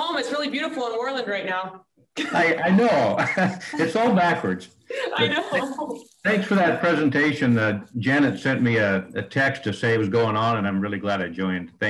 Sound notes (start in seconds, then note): 2.2 laughter